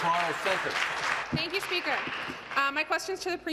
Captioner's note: applause